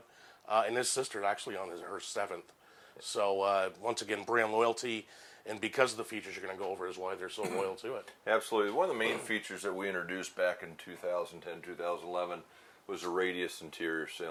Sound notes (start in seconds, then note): 7.4 clears throat